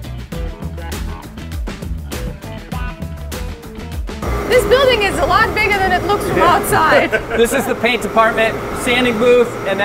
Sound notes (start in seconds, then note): 5.8 laughing